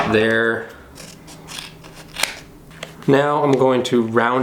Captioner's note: cutting